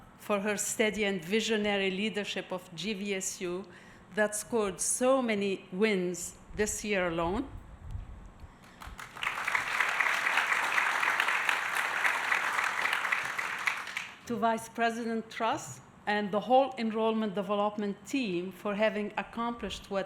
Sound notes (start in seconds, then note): 8.7 audience applauding